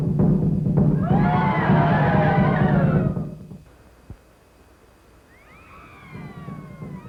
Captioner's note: pounding of jungle drums; screaming